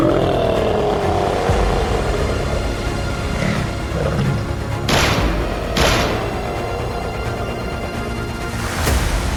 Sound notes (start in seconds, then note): 0.0 creature growling; 4.9 gun firing